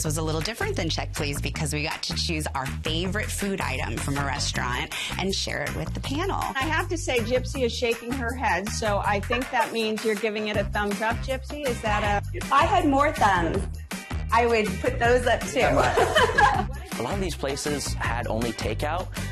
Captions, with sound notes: was a little different than "Check, Please!" because we got to choose our favorite food item from a restaurant and share it with the panel. I have to say, Gypsy is shaking her head, so I think that means you're giving it a thumbs up. Gypsy, is that a -- If had more thumbs, I would put those up too. [ Laughter ] A lot of these places had only takeout,